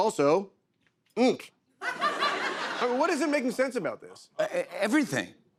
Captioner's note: laughter